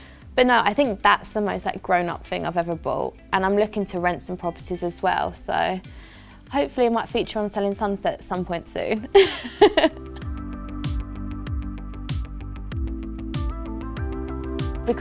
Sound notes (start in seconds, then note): 9.2 laughs; 10.1 upbeat music